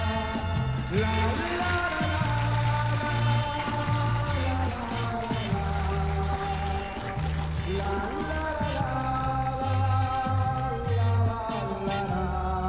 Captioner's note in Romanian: Aplauze